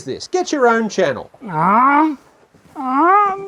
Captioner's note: whining